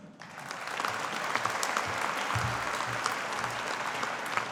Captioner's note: audience applauding